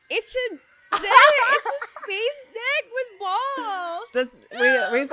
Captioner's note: laughs